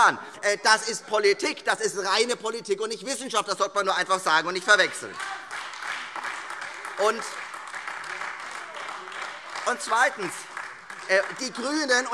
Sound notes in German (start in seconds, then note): 0.0 Lachen AfD; 8.3 Beifall